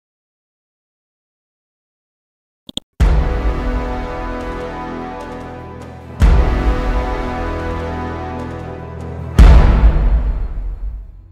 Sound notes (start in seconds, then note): 2.7 mouse clicks; 3.1 dramatic chord; 9.2 dramatic chord